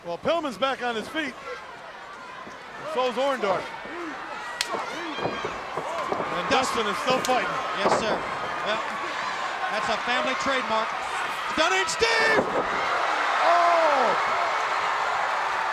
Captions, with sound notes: Well Pillman's back on his feet. So is Orndorff. (wrestler slapping) And Dustin is still fighting. Yes sir. That's a family trademark. Stunning Steve! (crowd roaring) Oh!